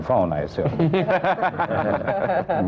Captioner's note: laughter